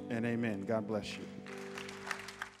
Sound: congregants applauding

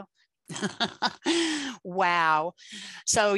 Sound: laughs

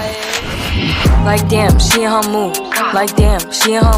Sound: grah

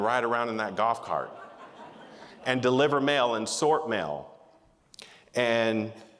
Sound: laughter

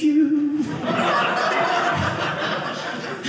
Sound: audience laughing

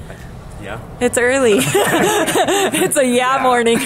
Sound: laughs

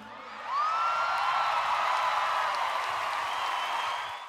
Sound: applause

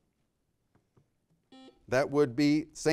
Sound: buzzer ringing

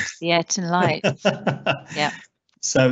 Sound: laughs

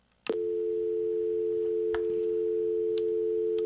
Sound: phone beeping

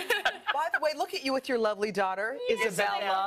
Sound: laughter

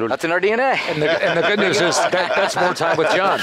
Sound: laughter

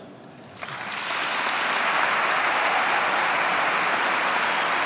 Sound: audience clapping

